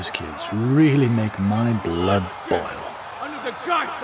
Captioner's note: one voice grows louder above the crowd